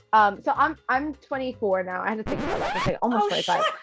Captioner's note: record scratch